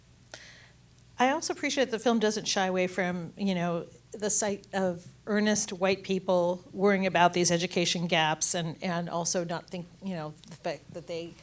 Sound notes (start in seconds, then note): none